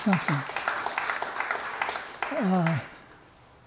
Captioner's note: applause